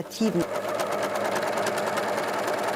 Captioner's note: sewing machine rattling